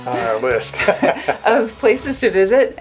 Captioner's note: laughs